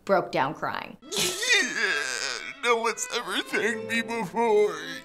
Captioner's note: sobs